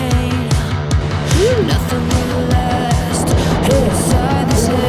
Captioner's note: laughing